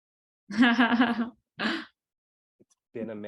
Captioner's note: laughter